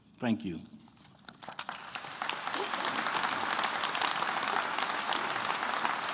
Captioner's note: attendees applauding